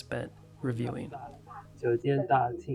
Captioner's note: Chinese